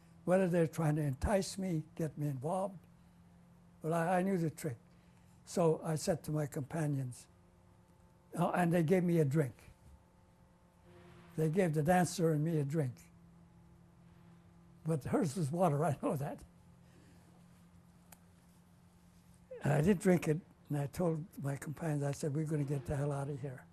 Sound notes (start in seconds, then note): 16.4 laughs